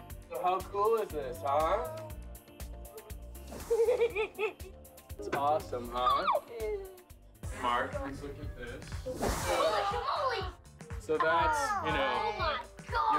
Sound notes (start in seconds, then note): 3.6 laughter